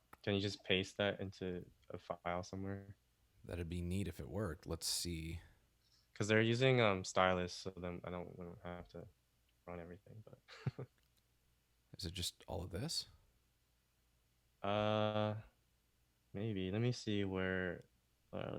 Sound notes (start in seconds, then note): 10.5 chuckles